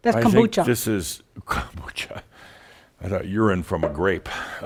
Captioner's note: Adamus chuckles